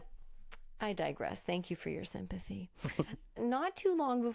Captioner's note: chuckles